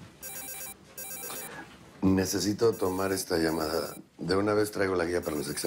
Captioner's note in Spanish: Suena el celular